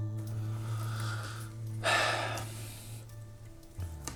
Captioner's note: Il soupire